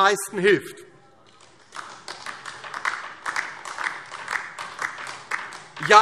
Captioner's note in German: Beifall DIE LINKE